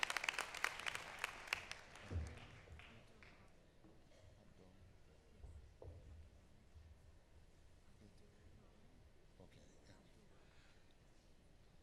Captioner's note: applause